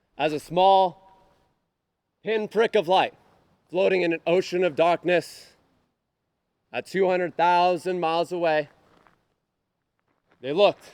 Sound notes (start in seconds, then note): none